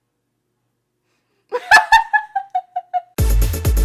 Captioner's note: laughs